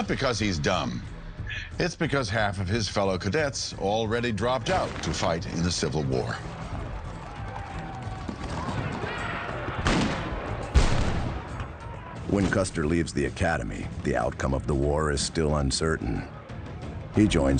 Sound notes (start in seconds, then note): 7.1 soldiers shouting; 9.7 gunfire blasting